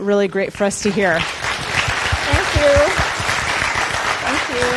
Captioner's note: audience clapping